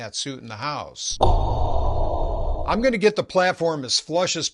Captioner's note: breathing apparatus sound